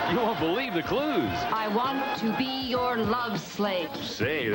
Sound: woman, deliberately

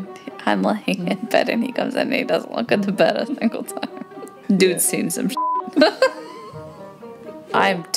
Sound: beep

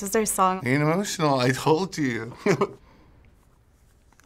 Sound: chuckles

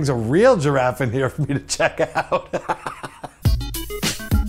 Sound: kaughs

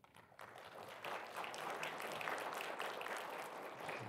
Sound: audience applauding

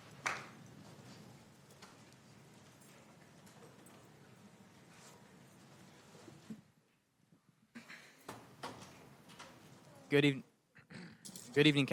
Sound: applause

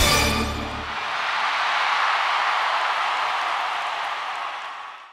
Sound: crowd cheering

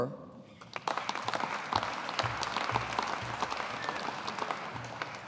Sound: audience applauding

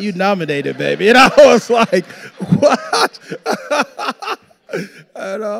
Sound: laughing; audience laughing

